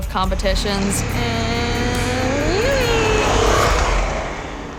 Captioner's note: engine revving